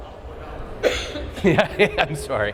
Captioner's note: laughs